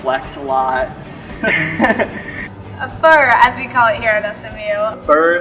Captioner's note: laughter